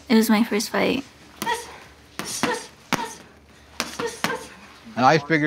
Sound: grunting

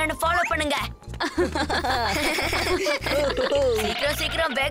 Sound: laughing

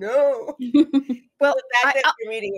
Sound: laughs

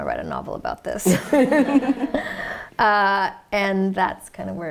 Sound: laughter

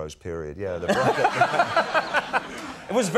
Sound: Conan laughing

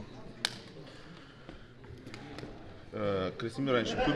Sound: in Russian

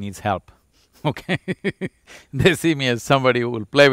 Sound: laughs

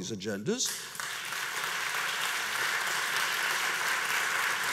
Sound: audience applauds

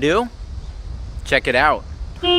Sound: car horn honks

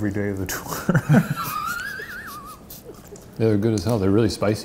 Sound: laughing

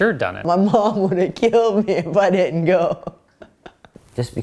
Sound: laughs

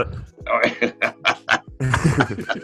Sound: laughter

